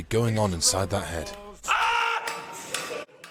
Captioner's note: scream